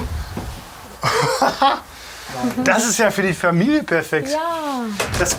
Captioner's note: laughs